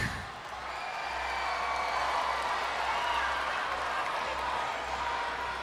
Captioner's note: crowd cheering